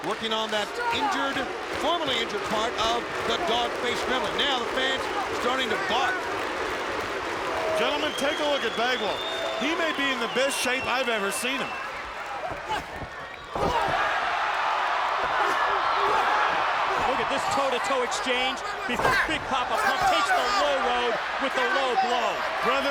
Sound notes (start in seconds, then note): 3.9 fans barking; 13.4 crowd cheering; 13.4 wrestlers grunting